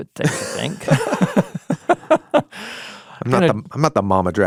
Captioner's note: both laughing